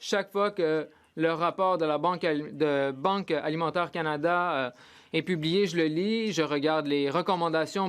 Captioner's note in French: voix de l'interprète